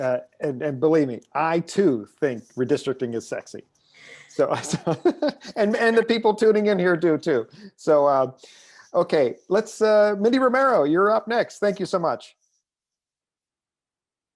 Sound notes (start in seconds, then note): 4.1 laughs